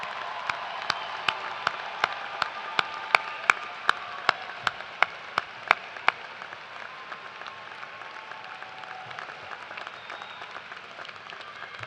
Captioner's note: cheers and applause